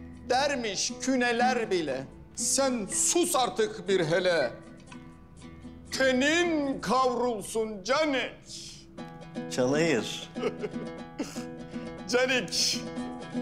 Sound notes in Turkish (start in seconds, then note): 10.1 Gülme sesi